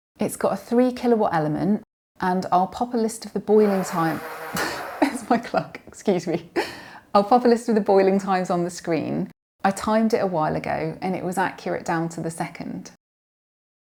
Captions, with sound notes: It's got a three kilowatt element and I'll pop a list of the boiling times... *whirring noise* That's my clock, excuse me. I'll pop a list of the boiling times on the screen. I timed it a while ago and it was accurate down to the second.